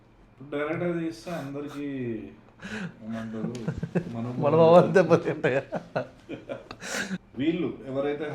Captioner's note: laughs